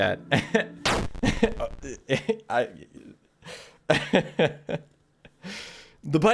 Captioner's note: laughs